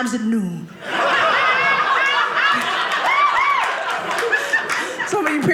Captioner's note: audience laughing